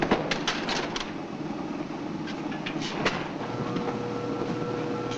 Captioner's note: gate bangs shut; elevator humming